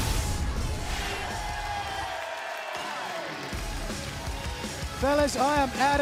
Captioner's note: cheers and applause